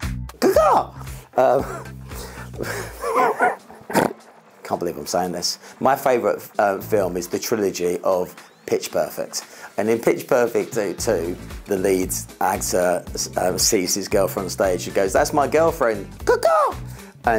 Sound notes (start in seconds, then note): 1.4 laughs; 3.8 snorts